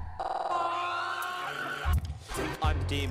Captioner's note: screaming